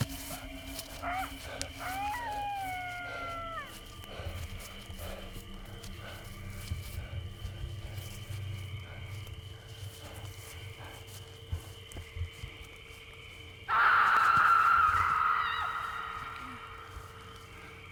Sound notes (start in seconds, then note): 1.8 animal screeching; 13.7 person screaming